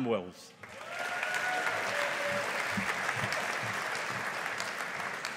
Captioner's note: audience applauding